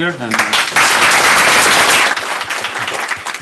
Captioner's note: applause